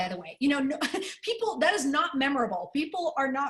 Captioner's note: laughter